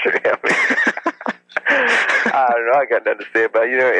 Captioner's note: both laugh